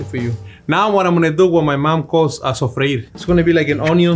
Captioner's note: speaking Spanish